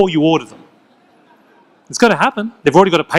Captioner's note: audience laughs